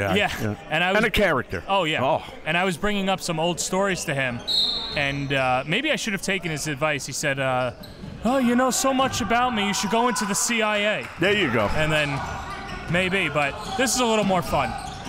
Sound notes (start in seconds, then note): 4.4 whistle blows